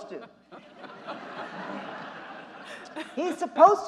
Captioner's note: audience laughing